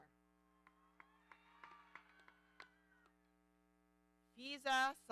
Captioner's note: audience cheering